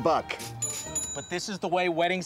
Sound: cash register ringing

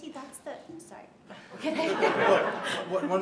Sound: laughter

